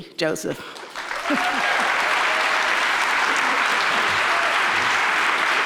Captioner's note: audience applauds and cheers